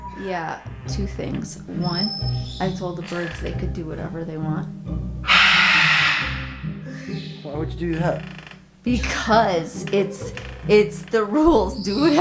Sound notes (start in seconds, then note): 5.3 Rocky screams